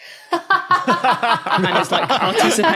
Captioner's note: others laugh heartily